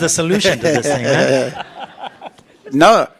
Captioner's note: participants laugh